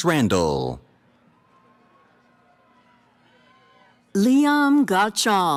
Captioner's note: cheering